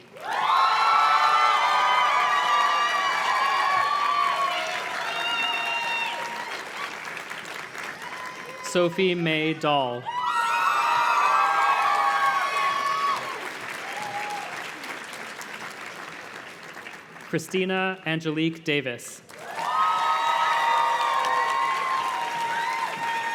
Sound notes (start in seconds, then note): 0.0 audience cheers and claps; 19.2 audience cheers and claps